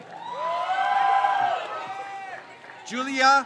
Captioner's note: crowd cheers